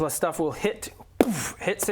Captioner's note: boof!